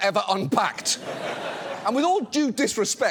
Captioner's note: studio audience laughs